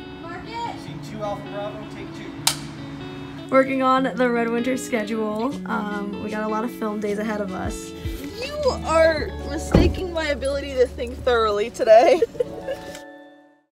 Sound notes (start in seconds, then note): 2.6 board claps; 12.0 chuckles